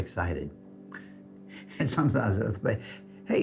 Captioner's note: chuckles